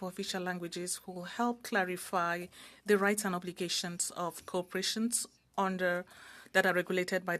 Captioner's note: speaking French